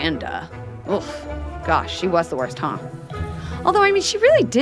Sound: groans

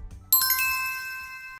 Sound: bell chimes

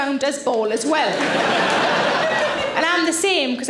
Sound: audience laughing

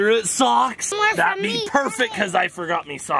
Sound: imitates pirate voice

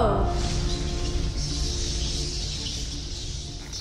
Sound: bats flutter and squeak

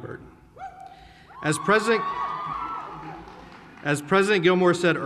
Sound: raucous hollering

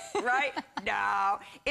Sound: laughter

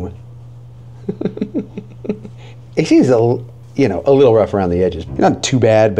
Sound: laughing

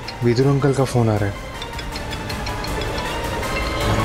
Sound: phone ringing

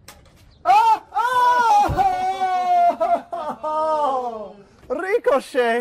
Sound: agonized cry

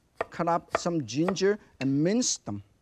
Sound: knife clinks; knife thudding

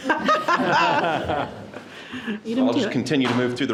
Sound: board members laugh

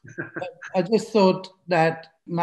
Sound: laughs

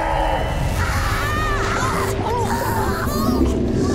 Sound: screaming

